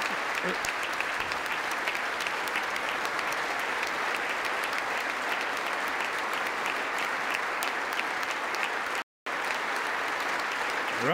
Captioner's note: applause